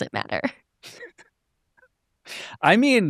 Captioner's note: all chuckling